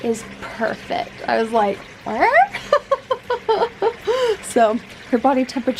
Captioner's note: laughing